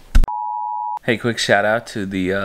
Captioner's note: beep